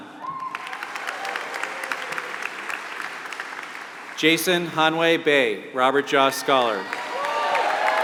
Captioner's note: applause; applause